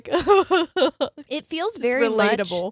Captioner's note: chuckling